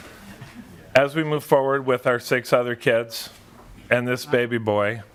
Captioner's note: laughter